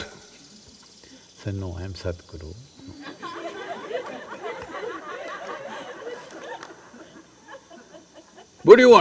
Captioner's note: laughter